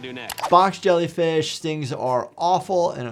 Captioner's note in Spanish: clic